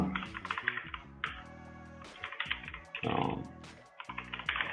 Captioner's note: keys clicking